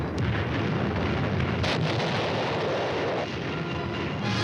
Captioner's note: bombs exploding